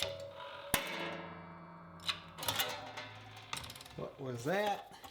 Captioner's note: metal rattling